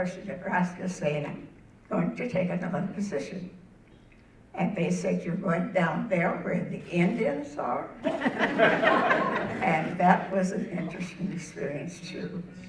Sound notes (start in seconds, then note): 8.0 audience laughing